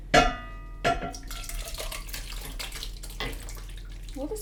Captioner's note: pouring sounds